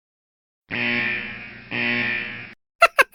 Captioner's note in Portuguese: Risada sarcástica